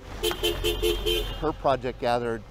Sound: car honking

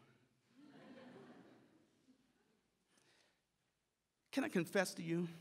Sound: audience laughs

